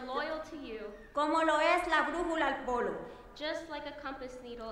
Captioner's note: speaking in foreign language